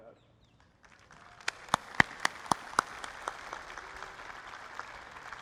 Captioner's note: applause